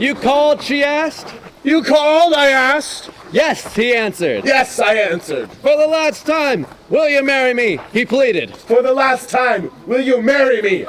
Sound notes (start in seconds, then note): none